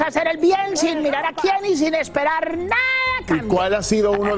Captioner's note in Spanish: risas